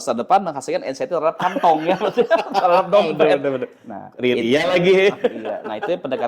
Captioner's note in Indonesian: tertawa